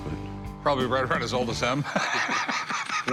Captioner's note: chuckling